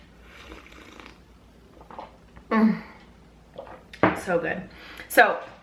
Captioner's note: sips